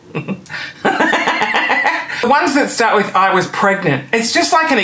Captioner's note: laughing